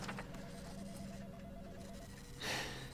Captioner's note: phone rings; sighs